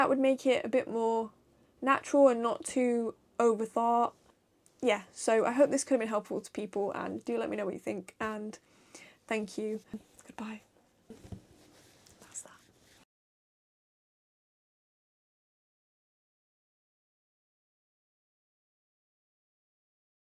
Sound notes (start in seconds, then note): 13.9 whispered